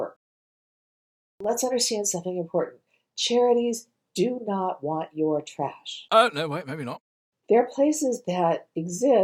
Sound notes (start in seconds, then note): 5.9 british comical accent saying "Uh, no way, maybe not."